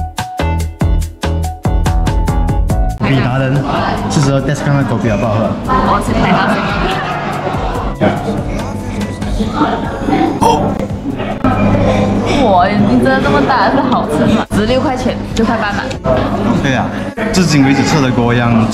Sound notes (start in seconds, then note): 6.4 giggling